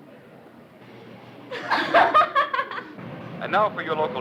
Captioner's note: laughter